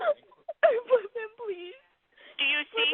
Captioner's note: caller panicking